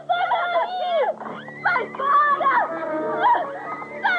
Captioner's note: screaming